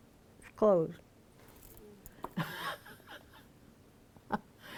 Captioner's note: laughs